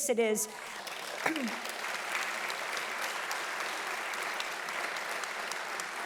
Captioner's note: audience applauding loudly